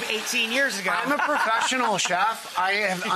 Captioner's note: audience laughs